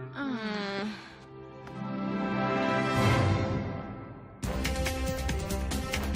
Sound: groaning

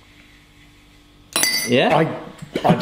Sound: spoon clanking

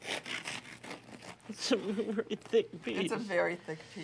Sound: chuckling

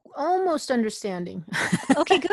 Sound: laughs

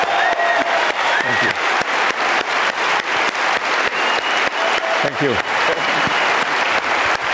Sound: audience cheering

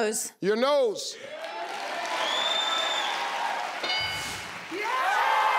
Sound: crowd cheering

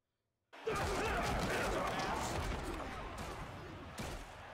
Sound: yelling and crashing

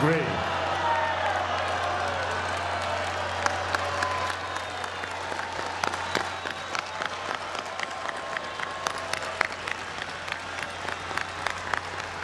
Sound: applause

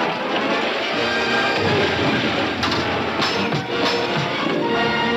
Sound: splashing

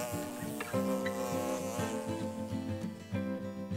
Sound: buzzing

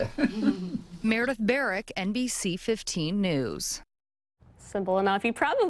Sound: giggles

